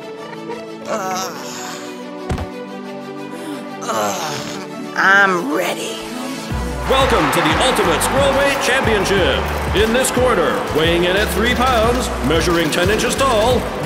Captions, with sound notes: (grunting) I'm ready Welcome to the Ultimate Squirrelweight Championship In this corner, weighing in at 3 pounds, measuring 10 inches tall.